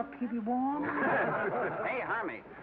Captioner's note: laughter